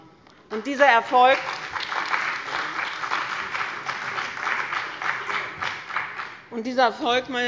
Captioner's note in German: Beifall bei dem BÜNDNIS 90/DIE GRÜNEN und der CDU